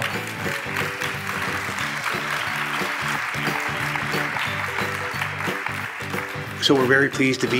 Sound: applause

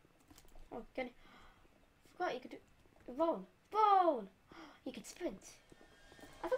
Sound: gasp; gasp again

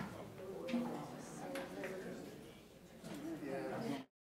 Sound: people talking

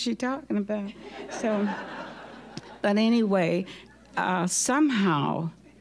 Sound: audience laughing

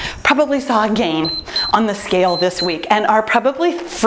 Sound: timer beeps

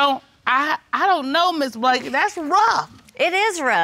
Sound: stammering

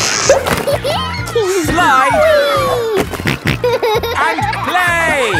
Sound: giggles; snorting

